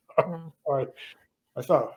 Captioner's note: laughs